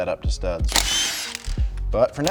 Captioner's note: impact gun whirring